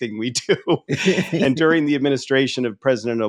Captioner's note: laughing